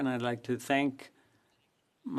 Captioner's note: speaking French